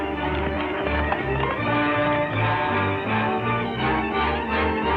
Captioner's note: galloping horse; lively orchestral music